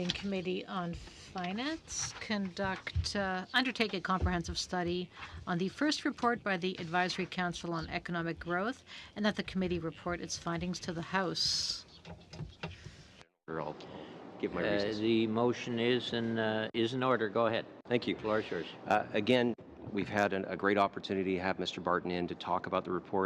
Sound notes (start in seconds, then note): 4.7 speaking french